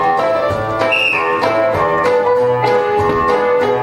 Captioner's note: whimsical 1920's music; whistle blows; whimsical 1920's music